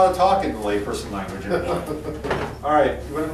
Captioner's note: laughs